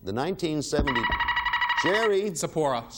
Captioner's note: buzzer beeping